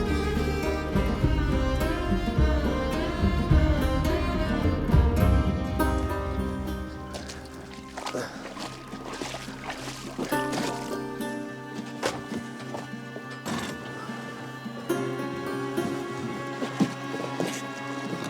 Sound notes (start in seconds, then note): 7.5 water splashing; 10.9 pensive music